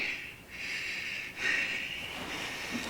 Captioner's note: panting